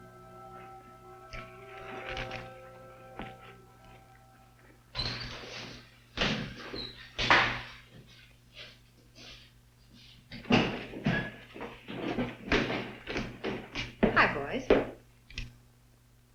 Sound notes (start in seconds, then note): 1.5 footsteps thudding; 6.4 door banging